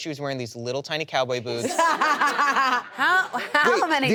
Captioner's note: laughter